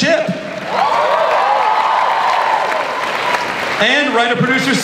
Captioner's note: audience cheers